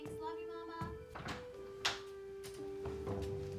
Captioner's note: door opening